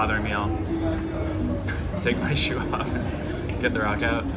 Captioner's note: chuckles